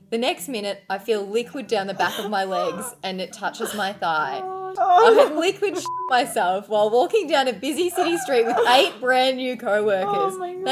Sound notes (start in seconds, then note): 5.8 beep